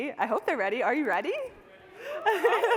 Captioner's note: cheering